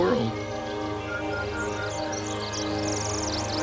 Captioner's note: birds chirping; dramatic music intensifies